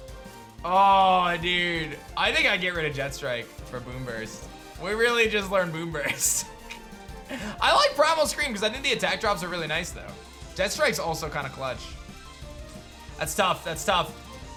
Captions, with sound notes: Oh, dude. I think I get rid of Jet Strike for Boomburst. We really just learned Boomburst. (giggles) I like Primal Scream, because I think the Attack drops are really nice though. Jet Strike is also kind of clutch. That's tough. That's tough.